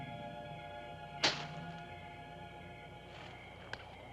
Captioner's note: stone thuds